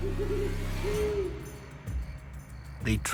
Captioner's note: owl hoots